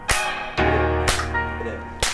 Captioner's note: clap